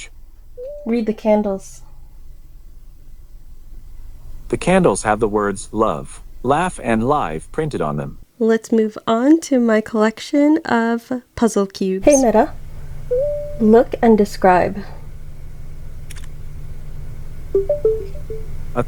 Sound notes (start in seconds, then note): 16.1 camera click sound; 17.6 chime